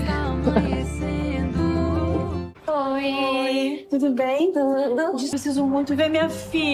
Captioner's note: laughter